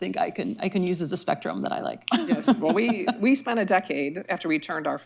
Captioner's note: laughs